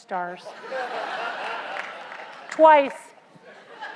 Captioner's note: laugh; applause; laugh